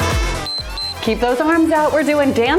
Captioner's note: timer beeps